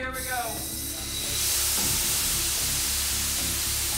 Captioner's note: fan blowing